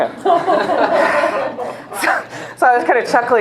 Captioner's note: laughter